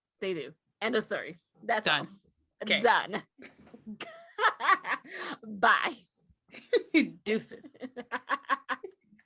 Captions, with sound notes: They do, end of story. That's all. -- Done. It's done. [laugher] Bye! -- [giggles] Deuces!